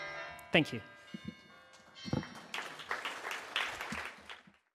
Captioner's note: audience applauds